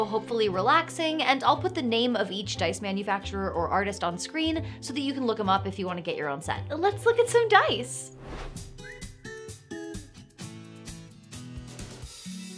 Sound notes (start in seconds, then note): 8.1 air whooshing; 8.5 relaxing music